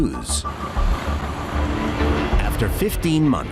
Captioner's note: jet engine roaring